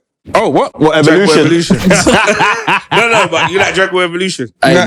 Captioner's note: laughter